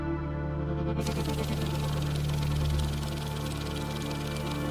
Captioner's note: cash flutters